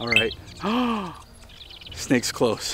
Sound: gasps

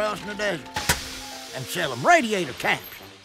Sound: steam hissing

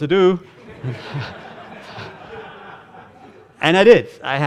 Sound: audience laughing

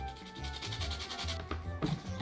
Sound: grating

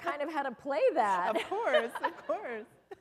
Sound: laughter

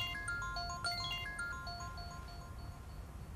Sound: mobile ringing

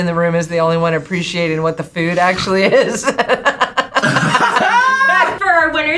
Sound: laughs

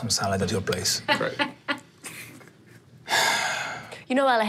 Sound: laughs

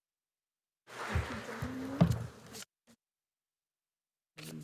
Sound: audience applauding

